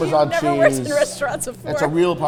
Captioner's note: laughs